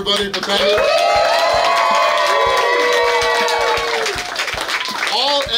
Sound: clapping & Cheering

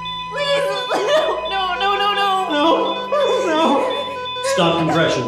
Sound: sobbing

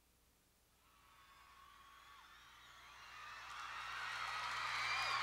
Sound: crowd cheering

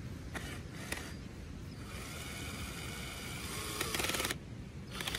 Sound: more power drill noise that sounds like battery is dying

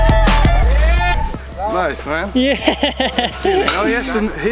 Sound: laughing

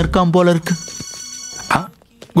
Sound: phone rings

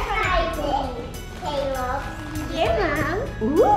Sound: children chat

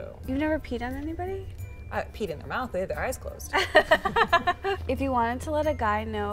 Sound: laughter

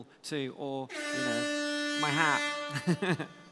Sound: siren

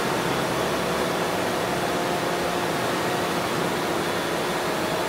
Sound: drone motors running

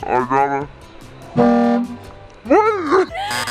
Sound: truck horn

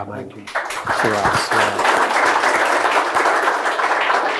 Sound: all clapping

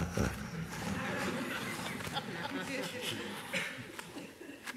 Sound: audience laughing

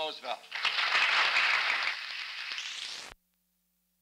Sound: applause; silent

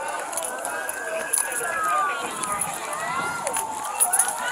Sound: sirens wailing; hollering

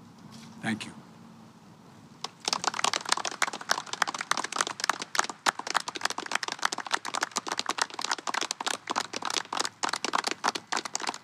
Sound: applause

